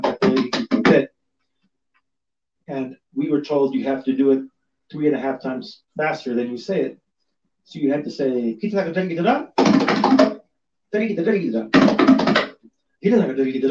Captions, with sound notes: And we were told you have to do it three and a half times faster than you say it. So you'd have to say (speaks foreign language). (hits drum)